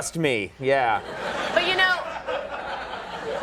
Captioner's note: audience laughing